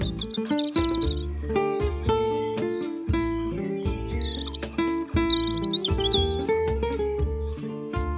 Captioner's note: birds chirping